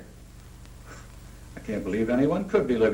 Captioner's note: scoffs